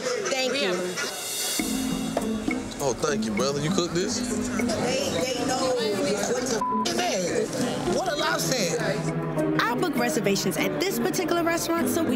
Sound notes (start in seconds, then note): 6.5 beep